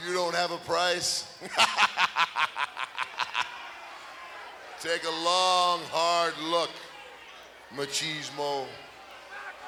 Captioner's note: laugh